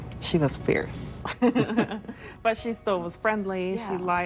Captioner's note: laughs